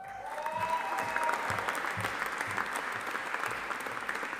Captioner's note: audience applauding